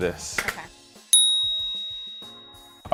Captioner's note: ding